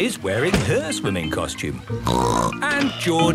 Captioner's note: snorts